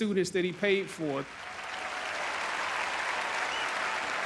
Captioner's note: audience clapping